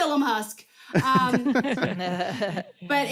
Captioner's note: laughter